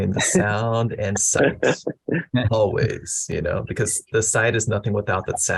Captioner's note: laughter